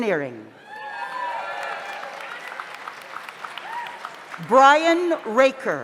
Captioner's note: audience cheers; audience applauds